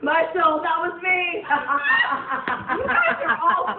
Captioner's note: everyone laughs